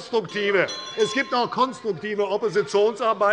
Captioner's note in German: Unruhe – Glockenzeichen der Präsidentin